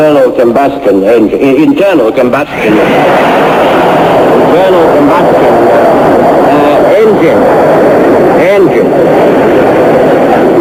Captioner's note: loud laughter